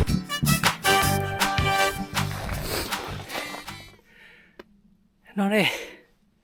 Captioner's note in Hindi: तालियां